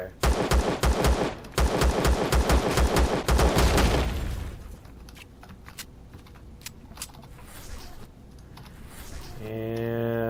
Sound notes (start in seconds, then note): 0.2 pistol firing repeatedly; 3.5 explosion; 4.6 drone humming; 4.6 reloading